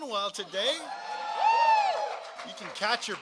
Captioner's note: applause